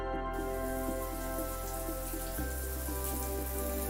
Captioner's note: water patters